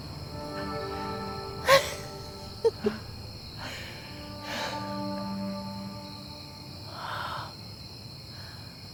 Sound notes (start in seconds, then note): 1.6 Caroline laughing; 3.9 insects chirping